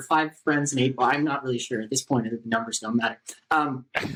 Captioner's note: laughter